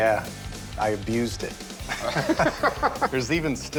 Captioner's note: laughter